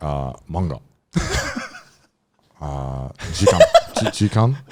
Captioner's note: speaking foreign language